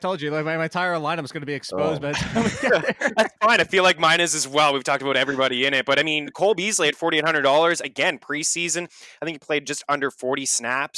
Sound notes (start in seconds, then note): 1.8 laughs